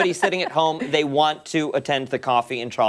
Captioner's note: laughter